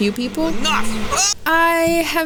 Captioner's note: overconfident, yells out